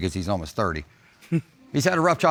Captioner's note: chuckles